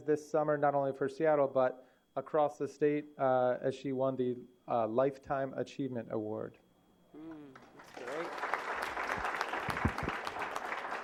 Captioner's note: applause